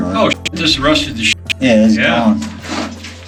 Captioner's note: beep